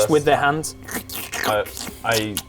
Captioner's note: slurp